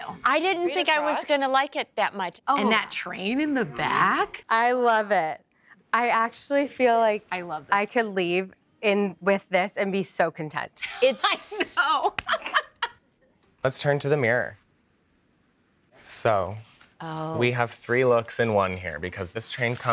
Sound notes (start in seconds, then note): 11.9 laughs